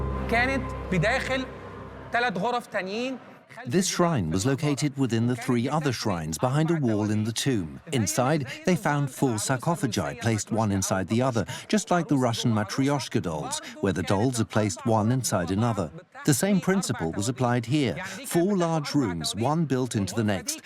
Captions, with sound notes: (Arabic dubbed in English) This shrine was located within the three other shrines, behind a wall in the tomb. Inside, they found four sarcophagi, placed one inside the other, just like the Russian Matryoshka dolls, placed one inside another. The same principle was applied here. Four large rooms, one built into the next,